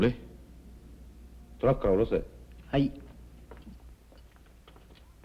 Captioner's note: speaking japanese